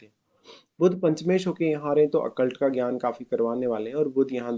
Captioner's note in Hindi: नाक से की जाने वाली आवाज़